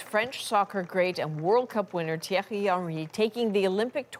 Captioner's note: applause